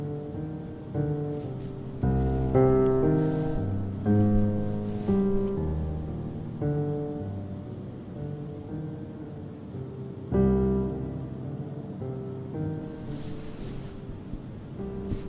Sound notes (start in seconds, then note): 1.2 bed sheets rustling; 12.9 shifting around in bed